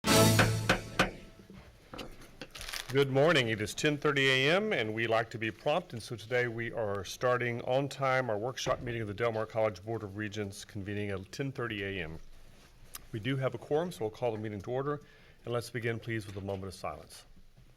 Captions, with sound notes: (gavel pound) - Good morning. It is 10:30 a.m. and we like to be prompt, and so today we are starting on time. Our workshop meeting of the Del Mar College Board of Regents convening at 10:30 a.m. We do have a quorum, so I'll call the meeting to order. Let's begin please with a moment of silence.